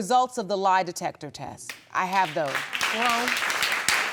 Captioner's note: audience applauding